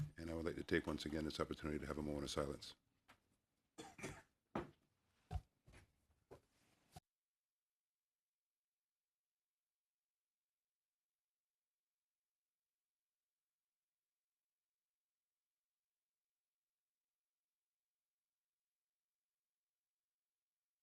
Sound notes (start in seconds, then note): 9.6 moment of silence